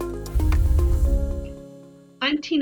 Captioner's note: air whooshing